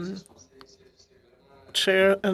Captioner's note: speaking in French